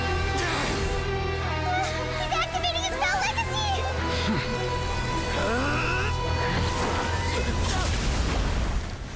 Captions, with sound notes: (grunting) - He's activating his pal, Lecasie!